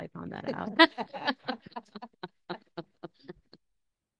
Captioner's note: all laughing